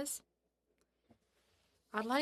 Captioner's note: speaking French